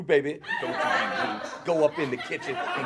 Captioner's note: audience laughs